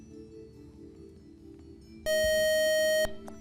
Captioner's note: buzzer